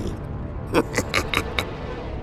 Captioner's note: laugh